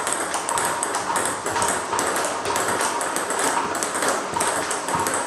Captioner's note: ball ping pong hitting continues